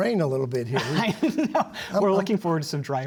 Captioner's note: laughter